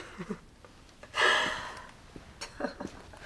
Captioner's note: laughs